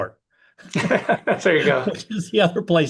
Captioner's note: laugh